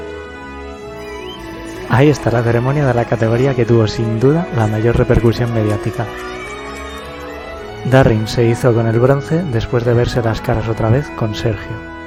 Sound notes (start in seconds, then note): 6.1 cheering and applauding